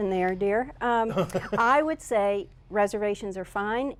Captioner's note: laughter